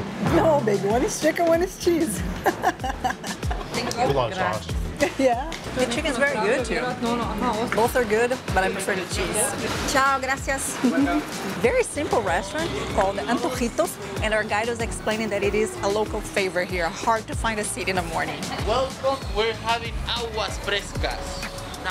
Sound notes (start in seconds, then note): 2.2 laughs; 10.2 in Spanish